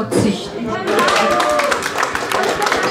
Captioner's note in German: Lauter Jubel